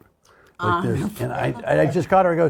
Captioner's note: laughs